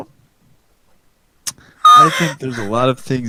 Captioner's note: lipsmack; gasp